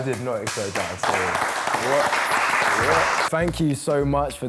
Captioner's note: applause